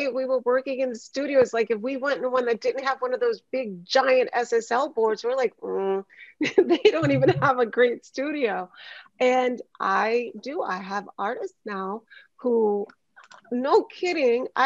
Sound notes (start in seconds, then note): 6.4 laughs